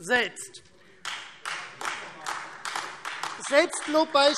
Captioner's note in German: Beifall